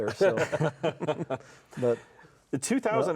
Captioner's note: laugh